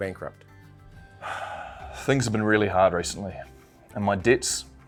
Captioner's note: sighs